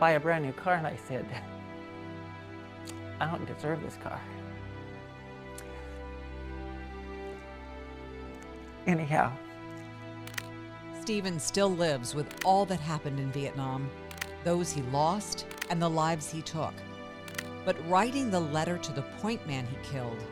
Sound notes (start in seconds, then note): 10.2 camera clicks